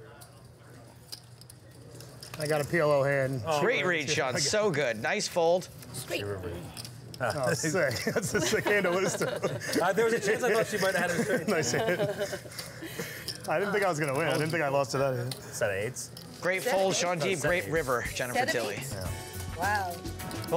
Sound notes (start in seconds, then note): 8.0 laughs